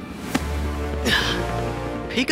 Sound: sighing

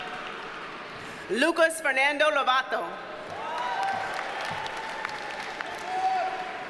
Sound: audience cheers and applauds

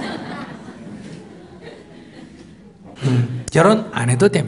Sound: audience Laughter

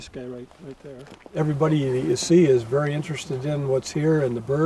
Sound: voiceover

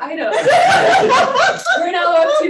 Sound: panelists laughing

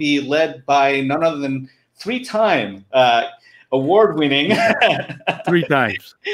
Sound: laughing

